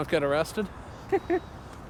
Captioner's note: laughing